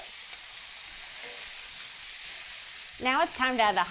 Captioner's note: chicken sizzling